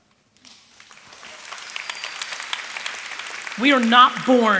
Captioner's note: applause